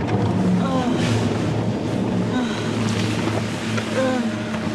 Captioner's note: groaning